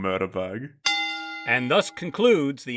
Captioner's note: bell ding